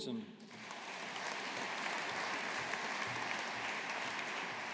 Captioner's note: audience applauding